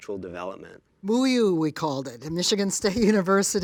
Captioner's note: laughs